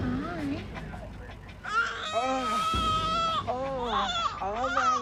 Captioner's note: crying